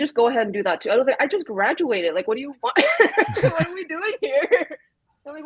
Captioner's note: laughs